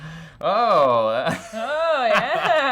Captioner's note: laughing